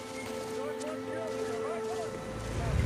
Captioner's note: soldiers shout